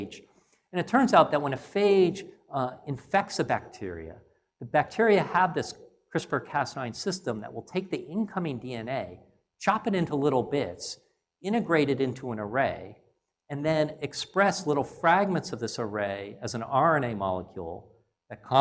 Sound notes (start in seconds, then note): none